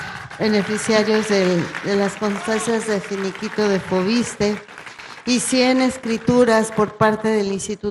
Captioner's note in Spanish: aplausos